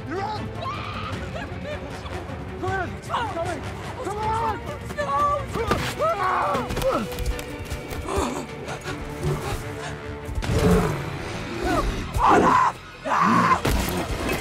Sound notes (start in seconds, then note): 0.6 Elsa screaming; 5.9 screams, grunts; 7.9 groans, gasps; 10.4 growling